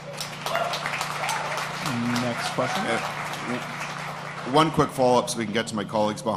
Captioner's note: applause